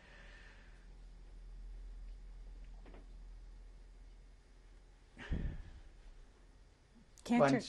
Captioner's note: pauses for 6 seconds